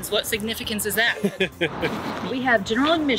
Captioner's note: laughs